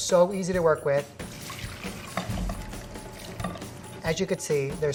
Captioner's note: water rushes